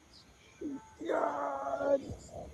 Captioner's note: groaning and screaming